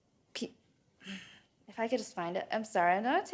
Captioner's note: grunts